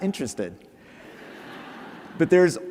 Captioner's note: laughter